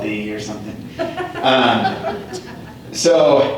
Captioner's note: laughter